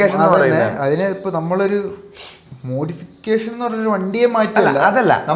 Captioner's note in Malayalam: ചീറ്റുന്നു